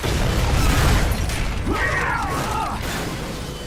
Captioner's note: all grunting